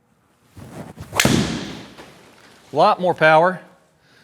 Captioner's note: golf club smacks